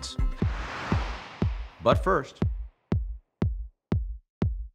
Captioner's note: heart thumping